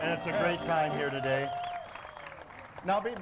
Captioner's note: audience applauds